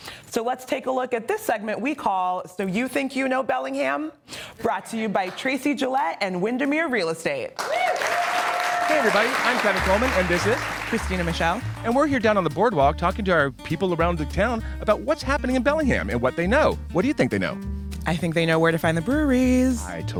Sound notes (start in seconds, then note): 7.6 audience cheering